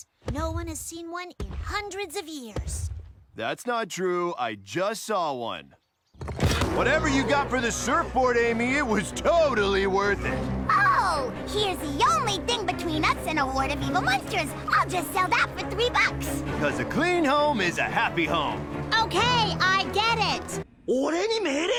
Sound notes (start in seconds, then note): 6.6 KNUCKLES, sarcastically; 10.6 STICKS, sarcastically; 16.4 KNUCKLES, sarcastically